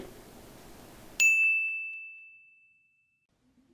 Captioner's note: ding!